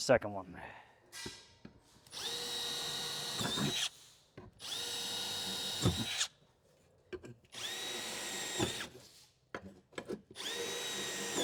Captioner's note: drilling